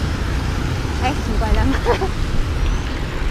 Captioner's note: laughs